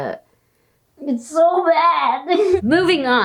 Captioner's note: mumbled Crying voice